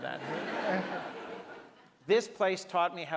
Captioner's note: audience laughs